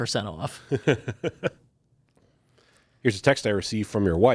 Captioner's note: laughs